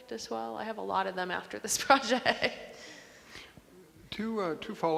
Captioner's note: laughs